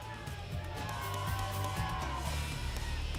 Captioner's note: cheering